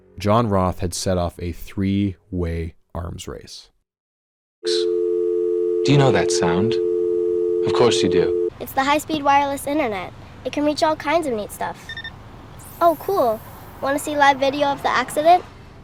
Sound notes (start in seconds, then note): 4.7 dial tone; 11.9 triple beep